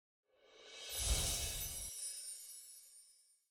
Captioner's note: twinkling